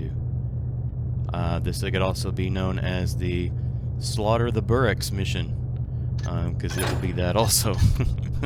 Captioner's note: laughs